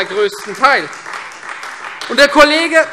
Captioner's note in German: Beifall Freie Demokraten